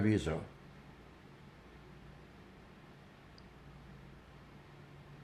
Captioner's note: pauses 8 seconds